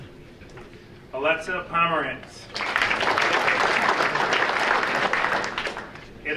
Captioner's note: audience applauding